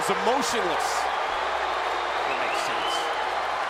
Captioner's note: audience cheering